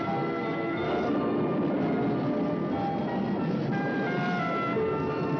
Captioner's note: thunder crashing